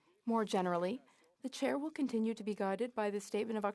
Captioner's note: speaking French